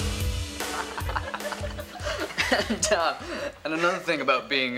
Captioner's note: class laughing